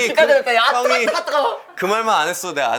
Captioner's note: mocking